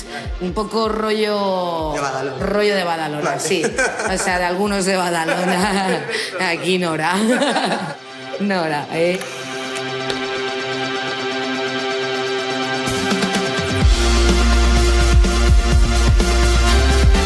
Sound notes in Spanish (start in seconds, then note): 5.7 Risas